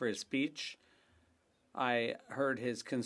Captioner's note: speaking French